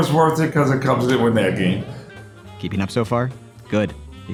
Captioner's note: laughs